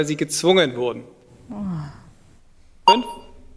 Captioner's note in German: entnervtes Seufzen